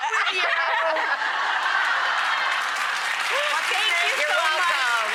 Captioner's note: audience applauding